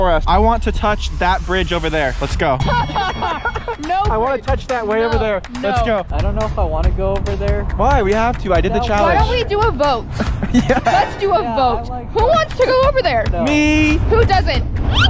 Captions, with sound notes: I want to touch that bridge over there. Let's go. - (laughs) No way! - I wanna touch that way over there. Let's go. - No. - I don't know if I wanna go over there. - Why? We have to, I did the challenge. - Why don't we do a vote? Let's do a vote. (dramatic sound) Who wants to go over there? - Me! - Who doesn't?